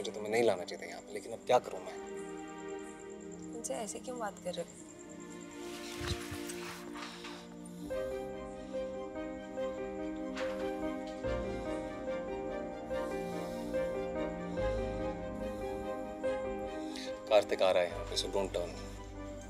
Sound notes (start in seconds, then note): 12.6 panting